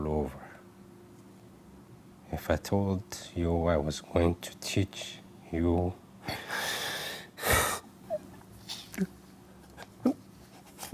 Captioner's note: sobs